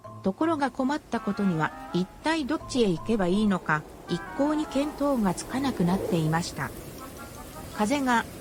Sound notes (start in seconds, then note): 6.6 sound of wind